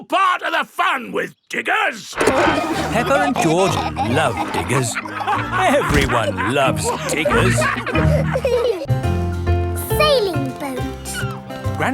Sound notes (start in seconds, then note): 2.2 peppa and george laughing